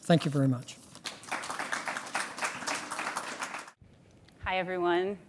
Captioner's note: audience applauds